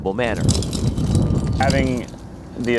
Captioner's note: NAT sound dummy coming down